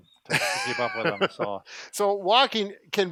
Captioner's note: laughter